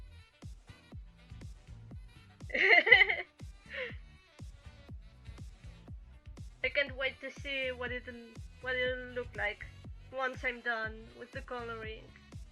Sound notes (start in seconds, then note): 2.5 laugh